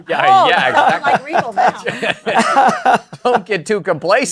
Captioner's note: laughter